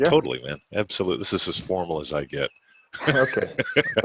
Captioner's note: laughing